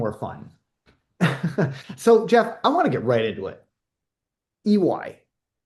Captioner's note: laughs